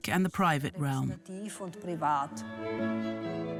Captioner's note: speaks in foreign language; elegant classical music